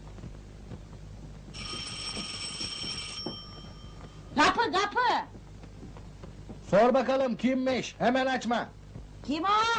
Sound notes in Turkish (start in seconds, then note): 1.5 kapi zi̇li̇ çalar